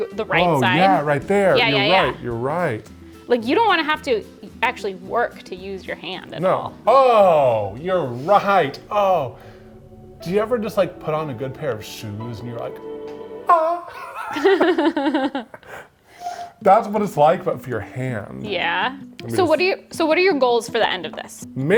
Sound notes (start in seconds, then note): 13.5 both laughing